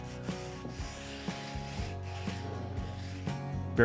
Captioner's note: sand paper scraping